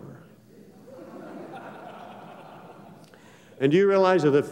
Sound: laughter

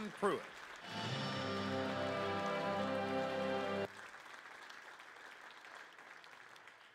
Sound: crowd claps

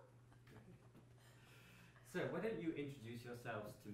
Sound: laughs

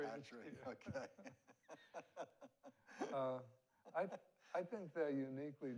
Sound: both laughing

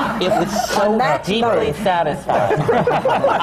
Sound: laughter; laughter

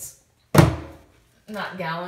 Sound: drawer slams

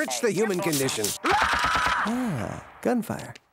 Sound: screaming and gunfire on TV

